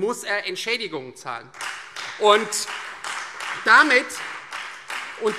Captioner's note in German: Beifall Freie Demokraten, SPD und vereinzelt DIE LINKE